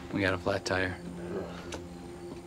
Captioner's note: Ben groans; crickets chirping; tense music